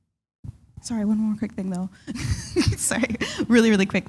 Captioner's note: chuckle